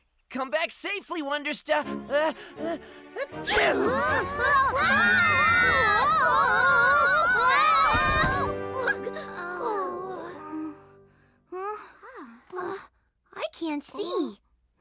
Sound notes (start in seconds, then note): 3.4 all screaming; 8.5 all groaning